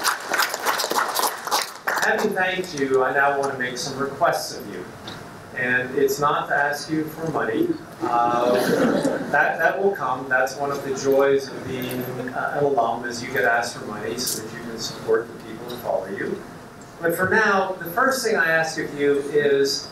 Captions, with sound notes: Having thanked you, I now want to make some requests of you. And it's not to ask you for money. (laughing) That will come, that's one of the joys of being an alum, is you get asked for money, so you can support the people who follow you. But for now, the first thing I ask of you is,